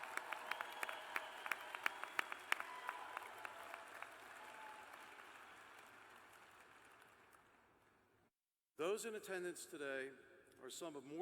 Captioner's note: applause